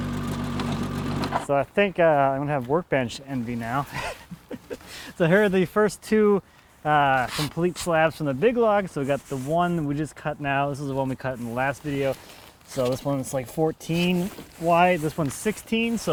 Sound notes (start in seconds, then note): 3.9 laughs